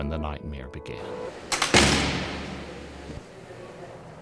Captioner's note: door slams